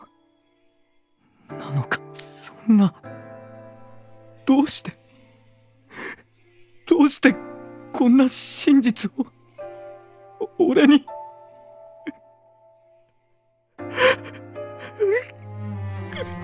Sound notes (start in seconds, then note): 10.5 cries